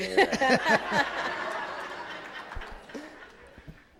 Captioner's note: audience laughs